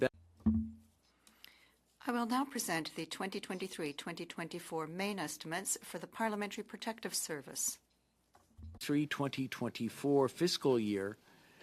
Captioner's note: speaking French